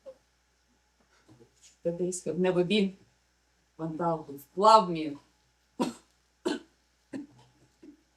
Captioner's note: coughing